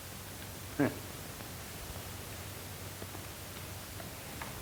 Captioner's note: chuckling